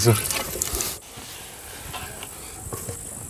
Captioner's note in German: Sanftes Insektenzirpen